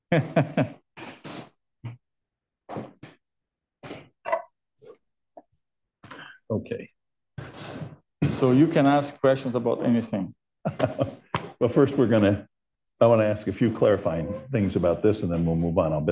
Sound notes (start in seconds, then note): 10.7 laughs